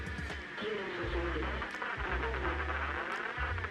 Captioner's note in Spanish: Estática